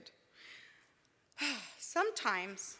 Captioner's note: sighs